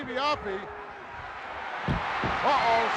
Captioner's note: crowd cheering